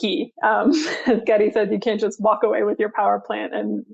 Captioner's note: chuckles